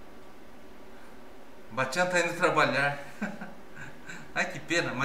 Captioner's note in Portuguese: risos